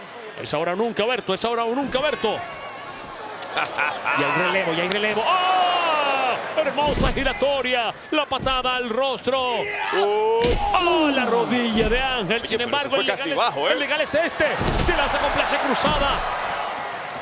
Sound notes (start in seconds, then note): 3.4 laugh